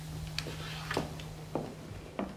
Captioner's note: handler slurping